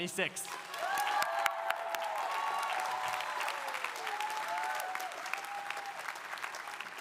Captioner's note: audience applauding; audience cheering